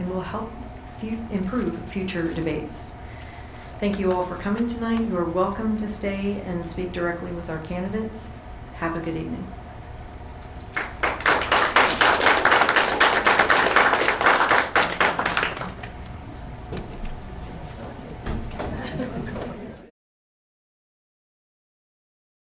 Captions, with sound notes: and will help improve future debates. Thank you all for coming tonight. You are welcome to stay and speak directly with our candidates. Have a good evening. (applause)